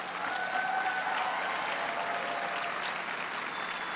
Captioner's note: applause